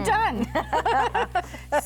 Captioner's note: both laugh